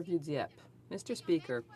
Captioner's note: speaking French